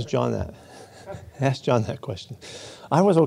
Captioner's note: chuckles